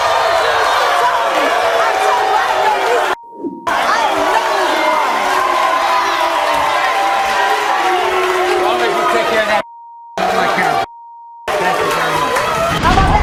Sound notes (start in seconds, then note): 0.0 audience cheering; 3.6 audience booing; 3.6 audience cheering